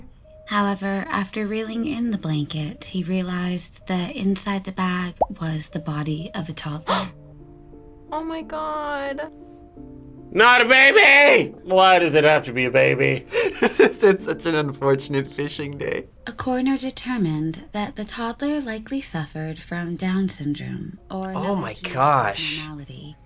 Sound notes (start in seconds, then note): 6.9 gasps; 13.3 laughs